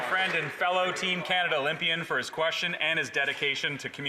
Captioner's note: applause